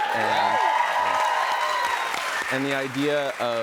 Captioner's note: cheers and applause